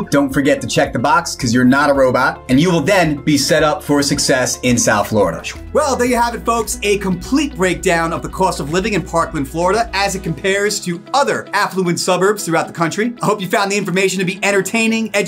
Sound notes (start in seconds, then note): 5.5 graphics swish; 6.5 upbeat electronic music